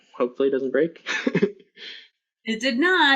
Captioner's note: laughs